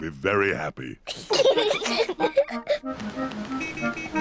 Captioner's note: both giggling